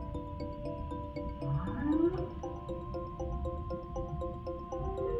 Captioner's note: curious music continues; whale bellows; whale cries